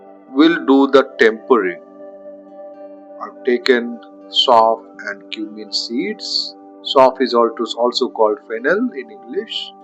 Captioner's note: Hindi